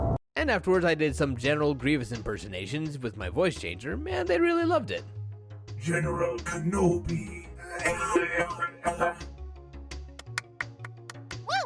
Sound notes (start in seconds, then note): 0.0 explosion; 7.7 robotic coughing; 9.9 clapping